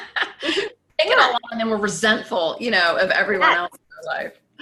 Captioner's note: voice muffled